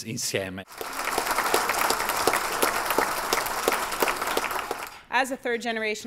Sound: applause

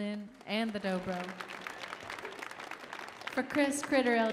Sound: audience applauding

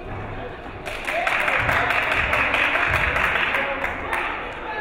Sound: crowd applauding

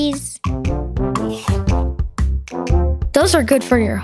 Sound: Ed chomps

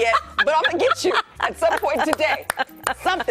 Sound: laughter

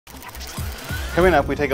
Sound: gear whirs

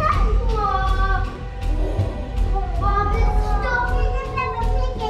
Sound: kids exclaiming

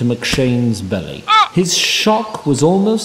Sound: surprised groan

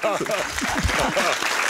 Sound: applause

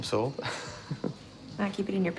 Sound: laughing

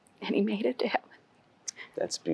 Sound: weeping

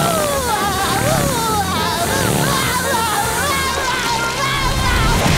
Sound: laughing

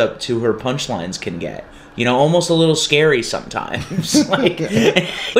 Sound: laughter

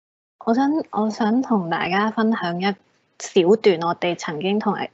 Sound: Cantonese

